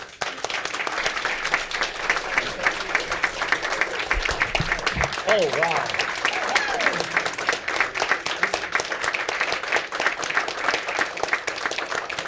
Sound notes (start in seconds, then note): 0.3 all clapping; 6.4 all clapping